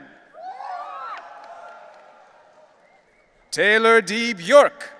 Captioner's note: audience cheering